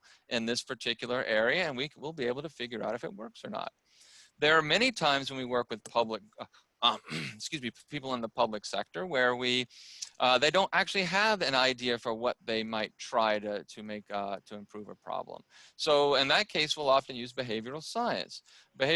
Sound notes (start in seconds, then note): 6.9 throat clearing